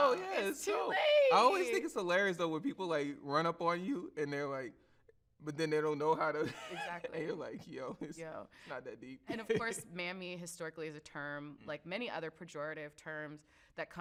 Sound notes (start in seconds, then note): 6.4 laughs